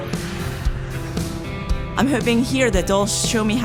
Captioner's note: upbeat music; plane engine